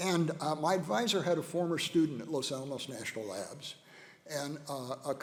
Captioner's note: none